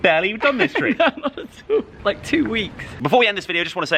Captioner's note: laughing